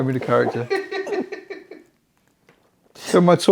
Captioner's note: laughs